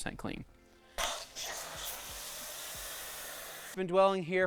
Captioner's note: motor whirring